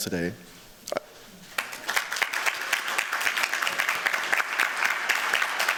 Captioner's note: applause